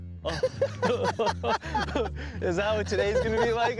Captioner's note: laughter